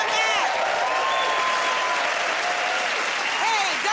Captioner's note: cheers and applause